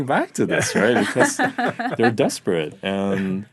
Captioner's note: laughing